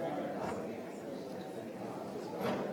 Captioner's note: none